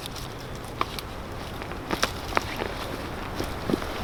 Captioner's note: branches cracking